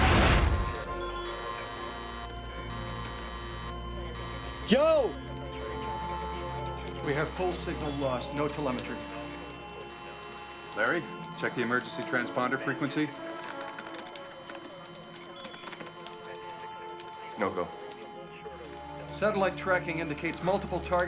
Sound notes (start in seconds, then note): 0.2 alarm; 14.0 water run